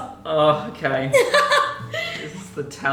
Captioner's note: laughing